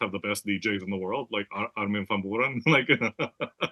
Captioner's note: laugh